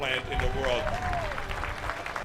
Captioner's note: kalabalık alkışlıyor ve tezahürat yapıyor